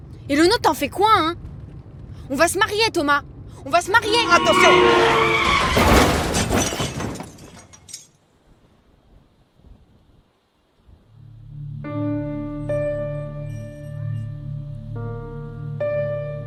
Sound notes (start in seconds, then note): 3.9 horns; 3.9 screeching, crash; 11.2 sad music